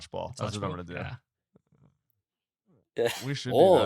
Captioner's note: laughs